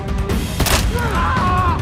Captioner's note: leg breaking; man shouting